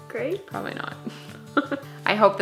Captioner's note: laughs